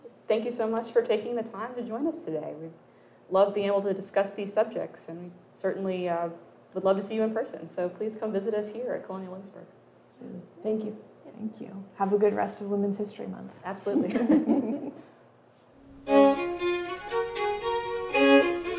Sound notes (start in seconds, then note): 13.9 woman laughing; 16.0 upbeat music